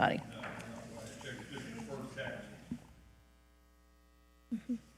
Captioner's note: speaking faintly